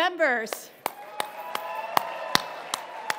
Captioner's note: audience cheering